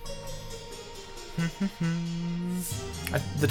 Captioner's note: hums